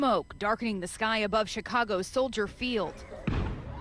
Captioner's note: explosion